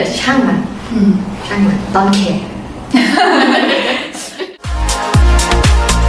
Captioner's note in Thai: เสียงหัวเราะ